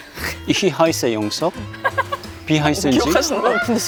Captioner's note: speaking German